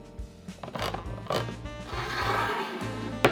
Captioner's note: can opener cranking